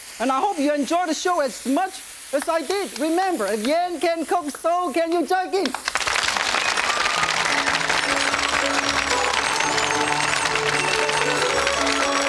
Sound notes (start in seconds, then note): 7.1 audience clapping; 8.7 joyful music